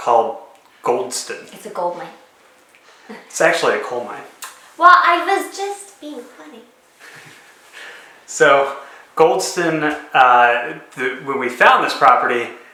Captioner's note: chuckle